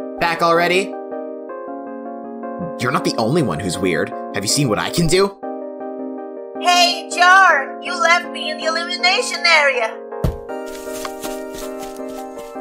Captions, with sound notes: Back already? You’re not the only one who's weird. Have you seen what I can do? [in Putty's voice] Hey, Jar! You left me in the elimination area!